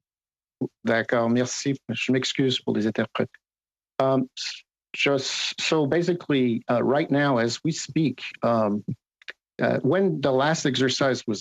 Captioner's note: speaking French